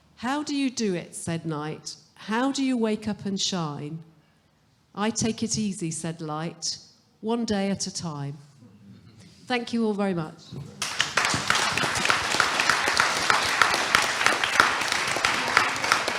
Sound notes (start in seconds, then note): 10.6 audience applauding